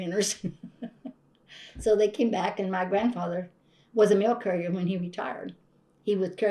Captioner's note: laughs